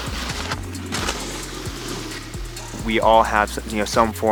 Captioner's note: snowboard glides